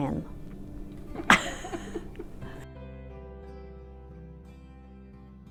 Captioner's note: laughing